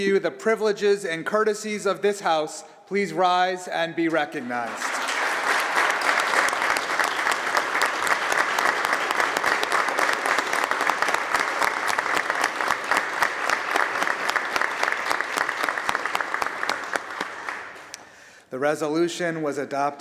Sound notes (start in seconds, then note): 4.4 applause